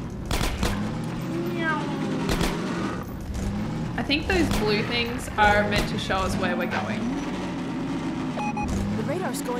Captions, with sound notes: [Car goes nyrrm] I think those blue things are meant to show us where we're going.